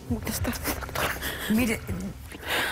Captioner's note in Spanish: Sollozos